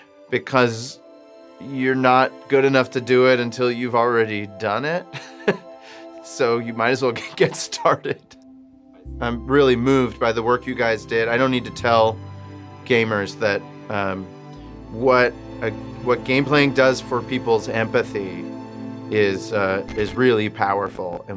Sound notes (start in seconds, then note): 5.1 chuckles